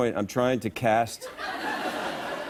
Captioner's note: laughter